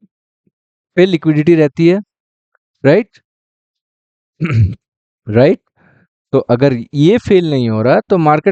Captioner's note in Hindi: गला साफ़ करने की आवाज़